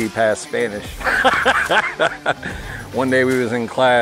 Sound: laughter

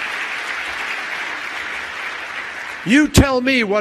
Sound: applause

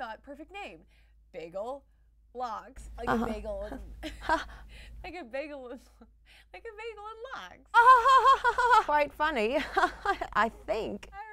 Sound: laughter

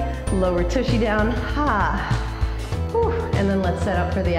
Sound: exhales

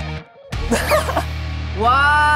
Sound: laughing

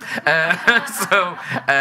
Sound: audience laughing

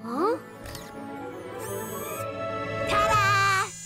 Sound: whirring

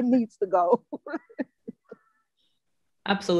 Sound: laughs

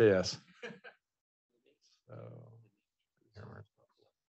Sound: student laughing

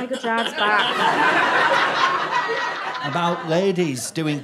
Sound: audience laughter

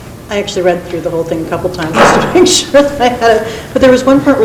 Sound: laughs

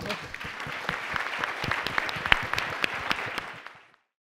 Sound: audience applauds

